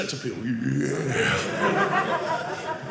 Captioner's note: audience laughing